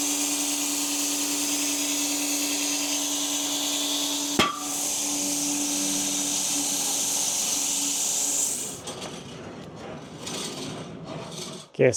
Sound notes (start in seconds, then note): 4.2 log saw whirring; 4.4 wood clanging; 9.2 log saw rattling